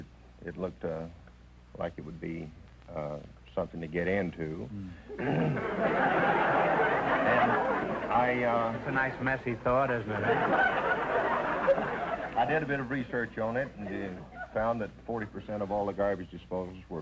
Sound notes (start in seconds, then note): 5.0 audience laughter; 5.1 clears throat; 10.2 audience laughter